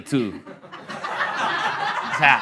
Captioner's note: laughter